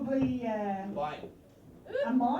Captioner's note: someone yells "mine"